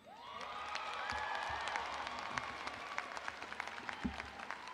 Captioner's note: audience applauding